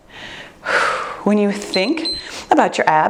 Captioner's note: chuckles; breathes deeply; timer beeps